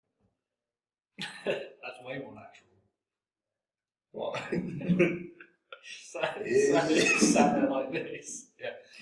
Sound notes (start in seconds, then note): 1.2 laughs; 4.2 both laugh